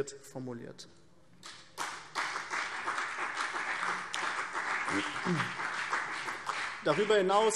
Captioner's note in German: Beifall BÜNDNIS 90/DIE GRÜNEN und CDU